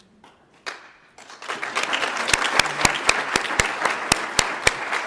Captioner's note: audience applauds